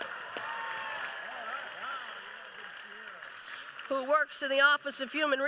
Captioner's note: applause